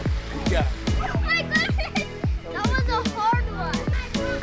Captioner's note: laughing happily